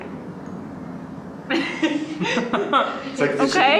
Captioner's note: people laughing